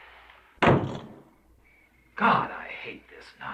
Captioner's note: door slams